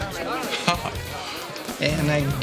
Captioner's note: chuckling